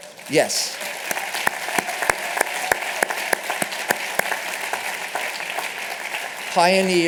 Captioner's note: applause